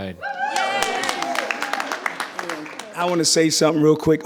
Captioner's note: audience cheering; audience applauding